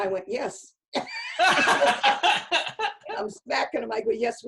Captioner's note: laughter